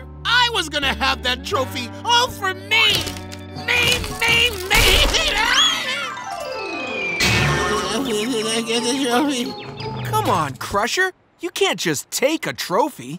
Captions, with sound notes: I was gonna have that trophy all for me! Me, me, me! [screaming] [groaning] Come on, Crusher, you can't just take a trophy.